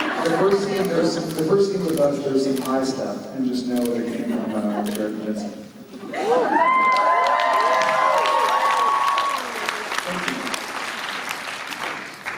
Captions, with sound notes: The first scene with us there's some pie stuff, and just know that it came from Jared and Jensen. [applause] Thank you.